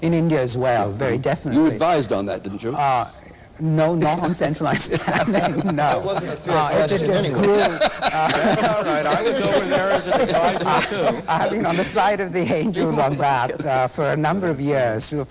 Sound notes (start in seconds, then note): 5.0 laughing; 5.5 laughter